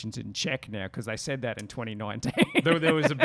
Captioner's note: laughs